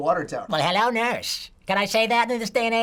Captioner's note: imitating Yakko